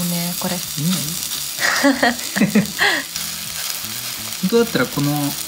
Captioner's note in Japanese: 笑い